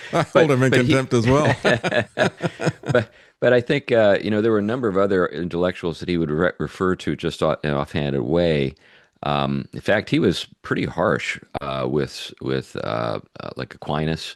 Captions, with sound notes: Hold him and contempt as well. (Both Laughing) But I think there were a number of other intellectuals that he would refer to just off-handed way. In fact, he was pretty harsh with Aquinas.